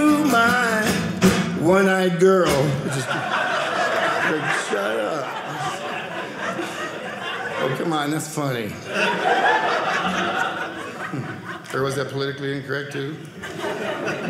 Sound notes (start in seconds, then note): 9.3 audience laughing